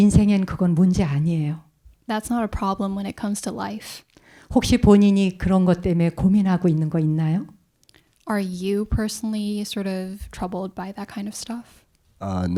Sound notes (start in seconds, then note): 0.3 speaking in Korean; 5.1 speaking in Korean